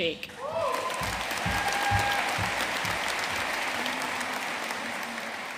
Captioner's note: audience cheering and applauding